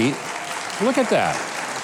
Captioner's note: crowd cheering